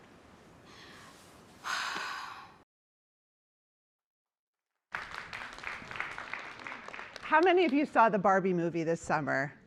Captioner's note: applause